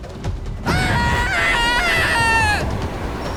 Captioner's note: screams